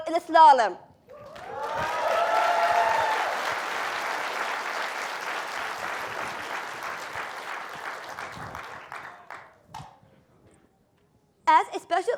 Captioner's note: applause